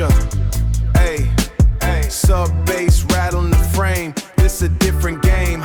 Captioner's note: rattle